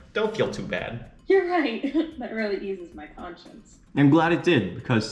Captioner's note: laughs